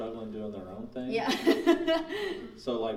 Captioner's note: laughing